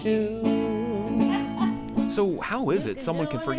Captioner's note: guitarist laughs